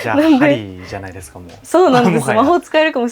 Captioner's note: laughter